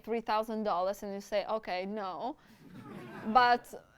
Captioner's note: audience laughs